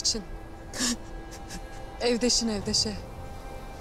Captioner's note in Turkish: Ağlama sesleri